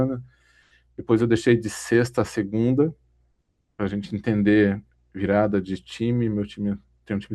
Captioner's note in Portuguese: limpando a garganta